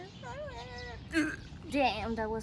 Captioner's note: gags